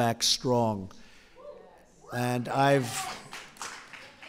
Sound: applause

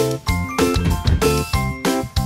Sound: door shuts

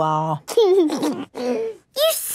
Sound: giggles

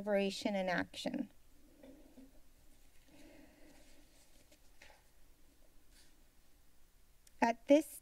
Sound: silence

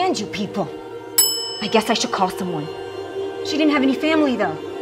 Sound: bell ringing

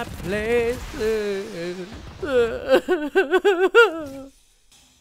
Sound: sobbing

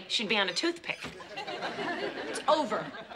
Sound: audience laughing

